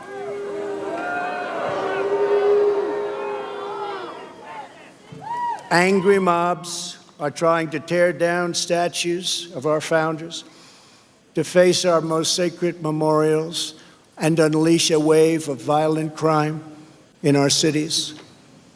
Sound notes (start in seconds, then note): 3.7 crowd booing